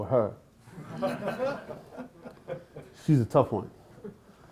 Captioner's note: laughter